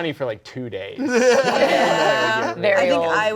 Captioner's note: everyone laughing